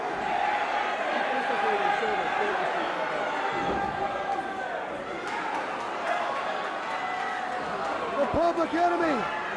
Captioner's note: crowd cheering